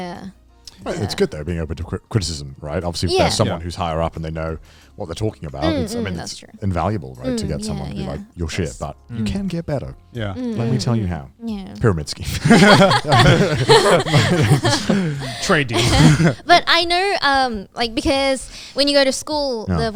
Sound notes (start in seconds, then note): 12.2 all laughing